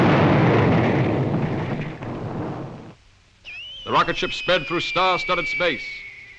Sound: explosion

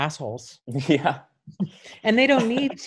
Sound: laughing

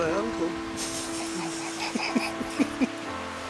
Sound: laughs

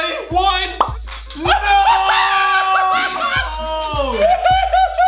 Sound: cheering

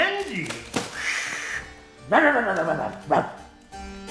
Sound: bark

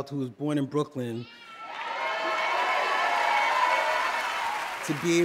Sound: cheers and applause

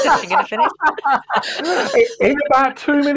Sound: laughter

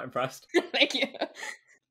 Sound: laughs

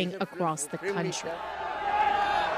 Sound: speaking alternate language

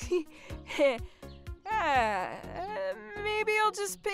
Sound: giggling

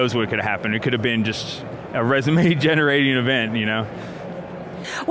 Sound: laughs

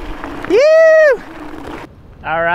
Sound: yells

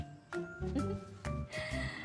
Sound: giggles

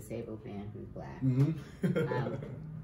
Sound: chuckles

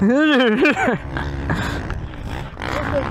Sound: laughs

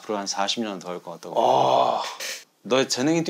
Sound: exclaiming

